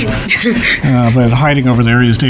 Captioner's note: chuckles